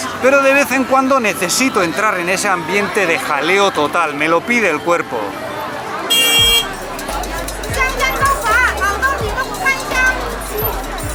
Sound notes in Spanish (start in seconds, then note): 6.0 Claxon de moto MUY ruidoso